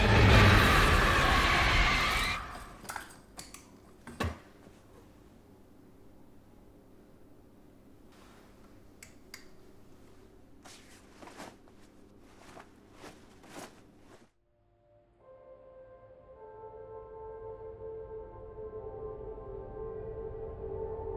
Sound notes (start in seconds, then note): 0.0 dramatic musical score; 2.3 light clicks; 2.8 lamp rattles; 9.0 light clicks; 11.4 cloth rustles; 14.6 peaceful music